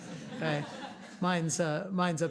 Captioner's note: class laughing